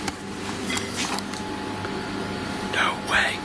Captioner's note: clattering